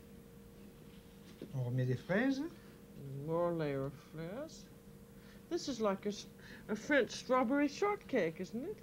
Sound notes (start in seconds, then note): 1.0 speaking French